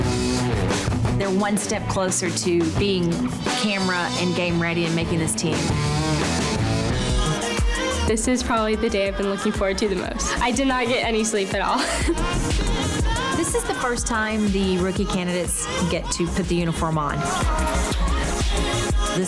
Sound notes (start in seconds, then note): 11.7 laughs